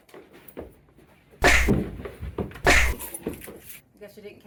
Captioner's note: loud thwacking